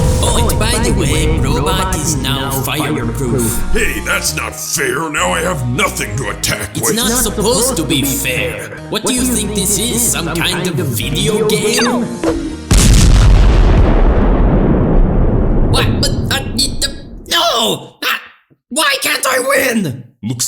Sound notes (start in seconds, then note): 12.2 bonk; 12.6 brobot explodes